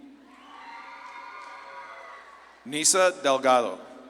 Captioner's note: audience claps and cheers